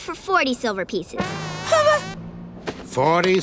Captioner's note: he whimpers